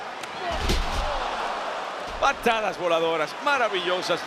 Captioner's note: applause